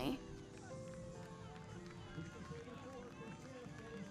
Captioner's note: crowd clapping